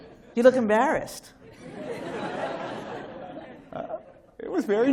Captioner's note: laughter